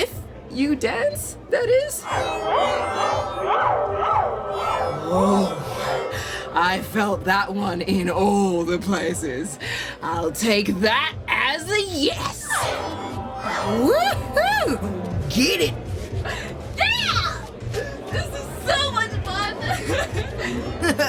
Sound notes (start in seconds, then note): 2.0 the alien musical tone chimes loudly, VERY much in affirmative